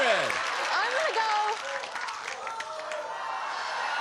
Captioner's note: applause